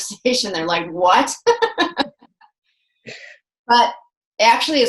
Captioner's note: laughs